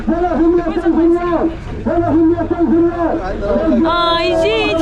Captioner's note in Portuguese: Homem falando ao microfone no fundo